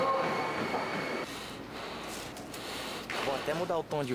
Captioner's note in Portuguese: respiração ofegante